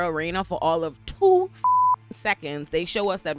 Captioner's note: beep